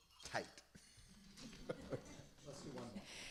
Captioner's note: laughter